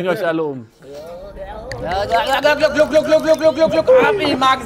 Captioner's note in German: machen Glucker-Geräusche